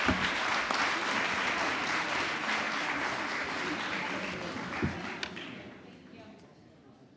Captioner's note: applause